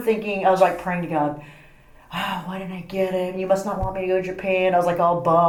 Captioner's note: sigh